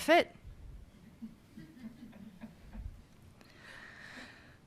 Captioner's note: audience laughs